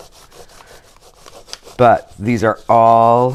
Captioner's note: crayon grates